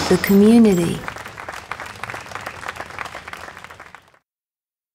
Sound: applause

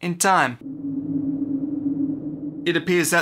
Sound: eerie sound

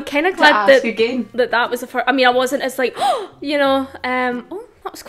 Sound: gasp

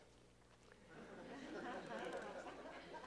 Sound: laughter

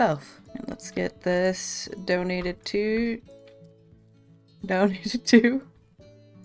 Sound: laughs

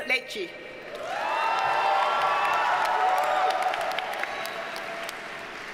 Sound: audience cheers and applauds

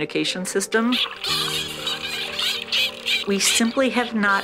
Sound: dolphin bursting

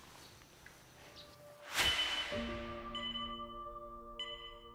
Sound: life support beeping

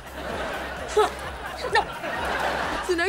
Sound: laughing

